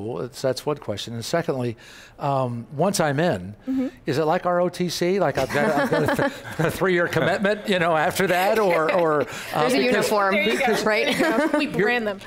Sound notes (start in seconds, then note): 8.2 laughing